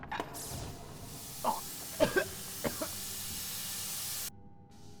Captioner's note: loud bang, air hissing; coughing